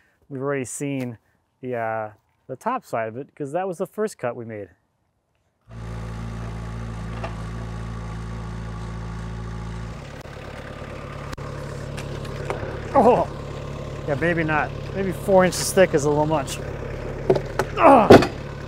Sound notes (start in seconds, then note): 6.0 machine rumbles